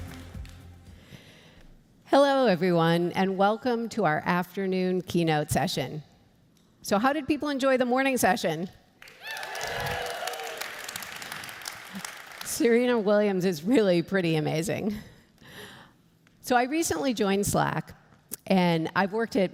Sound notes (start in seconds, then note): 9.0 cheers and applause